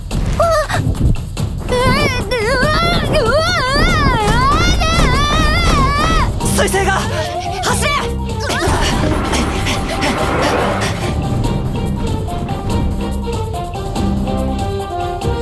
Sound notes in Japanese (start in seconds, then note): 8.7 荒い息